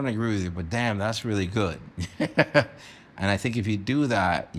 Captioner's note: chuckles